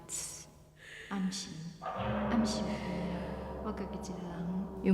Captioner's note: speaking Taiwanese